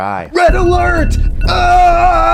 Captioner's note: bell ringing